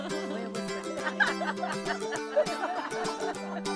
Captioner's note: folksy music; laughing